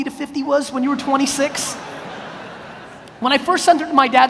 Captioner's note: audience laughs